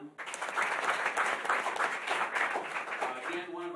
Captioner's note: applause